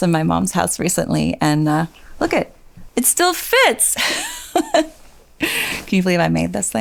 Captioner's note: laughs